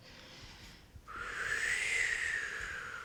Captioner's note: exhaling